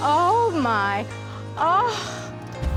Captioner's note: incredulous